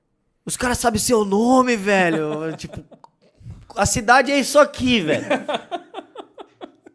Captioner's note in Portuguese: risos; rindo disfarçadamente